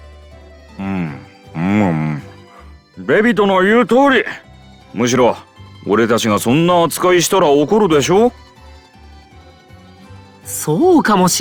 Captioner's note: eating